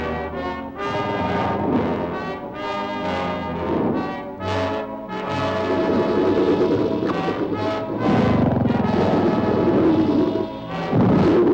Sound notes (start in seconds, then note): 5.2 animals bellowing; 5.6 dramatic music